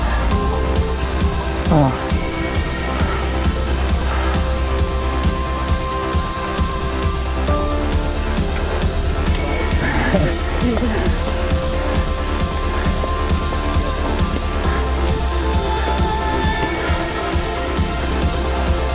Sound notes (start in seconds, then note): 0.0 upbeat music; 10.1 bike rumbling; 10.7 upbeat music